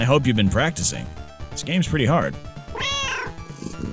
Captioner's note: meow